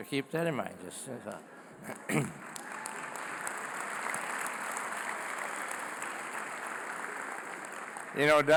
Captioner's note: applause